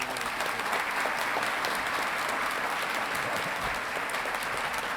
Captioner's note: audience clapping